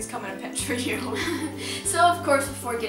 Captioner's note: chuckles